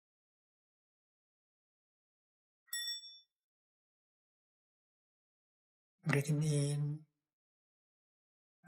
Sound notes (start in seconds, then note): 2.7 half-bell